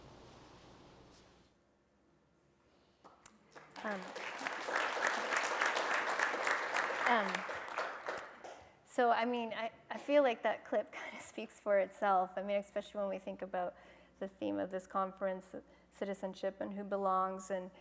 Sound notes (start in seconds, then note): 3.1 applause